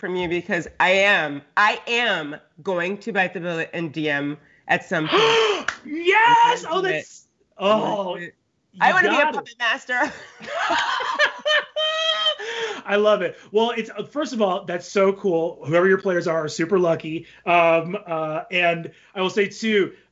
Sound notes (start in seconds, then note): 5.0 Brennan gasps; 10.0 both laughing